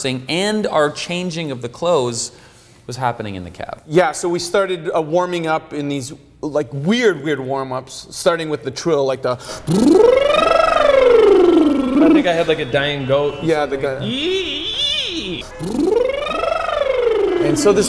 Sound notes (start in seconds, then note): 10.6 trilling noise; 14.7 screeching; 15.6 trilling noise